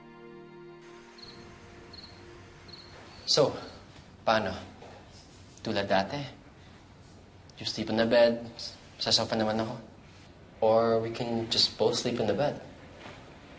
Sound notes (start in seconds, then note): 0.9 crickets chirping